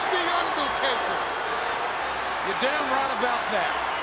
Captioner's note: audience cheers